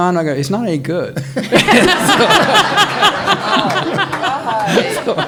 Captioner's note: all laughing